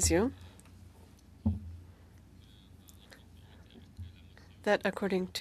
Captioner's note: speaking French